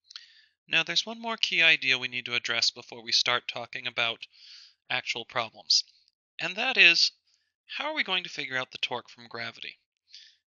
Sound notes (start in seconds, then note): 0.7 voiceover